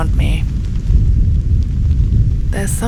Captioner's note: thunder